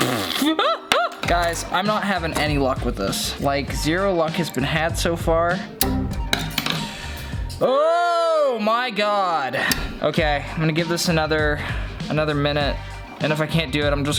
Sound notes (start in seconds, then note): 0.0 blowing raspberry; 5.6 computer error sounding